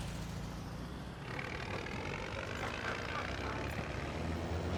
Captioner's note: bus engine rumbling